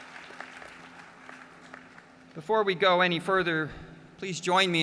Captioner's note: applause